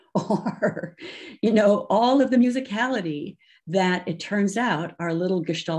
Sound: laughs

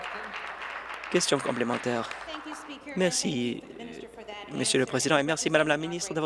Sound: applause

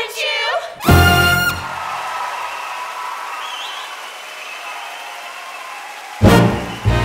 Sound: applause

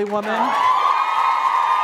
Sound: applause

